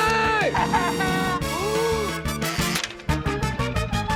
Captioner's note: cackles; gasps